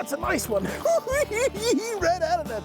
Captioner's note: cackling